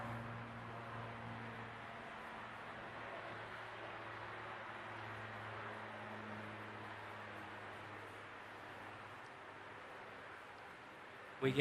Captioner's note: airplane Noise